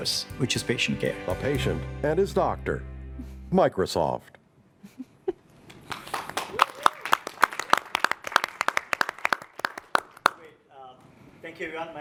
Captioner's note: applause